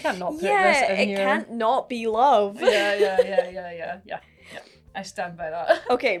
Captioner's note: laughing